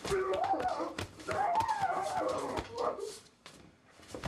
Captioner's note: screaming